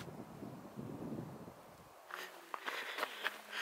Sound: wind blowing

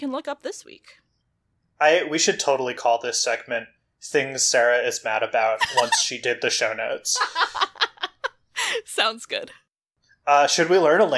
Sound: laughs

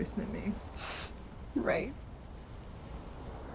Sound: sniffles

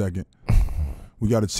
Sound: laughing

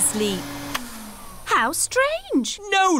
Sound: whirring stops

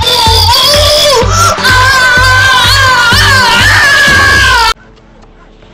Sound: screaming

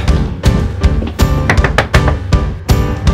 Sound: knocking

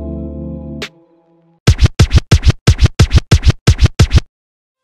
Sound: disc Scratch

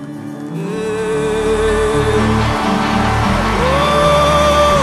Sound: audience applauding

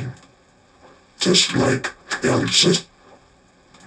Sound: reverse audio

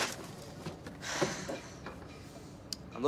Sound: sighs

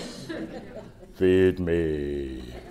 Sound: laughter

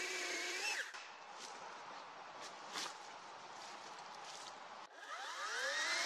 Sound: chainsaw running; light footsteps; chainsaw running

